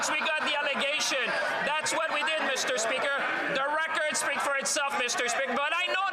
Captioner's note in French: voix de l'interprète